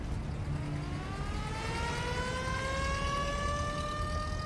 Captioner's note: ambulance siren wailing